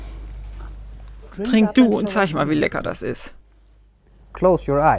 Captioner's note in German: englisch